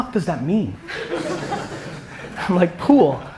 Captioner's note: audience laughter